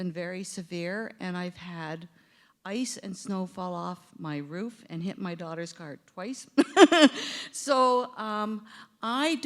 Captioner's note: chuckle